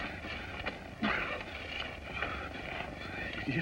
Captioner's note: panting